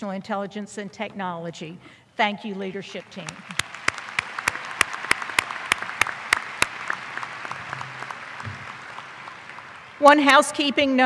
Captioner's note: applause